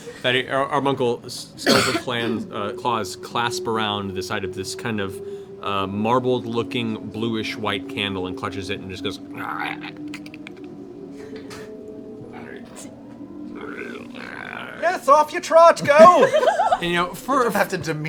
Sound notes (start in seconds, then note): 9.3 snarl